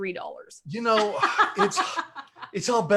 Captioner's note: laughs